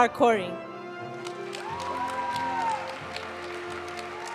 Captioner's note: audience cheering and applauding; graduation music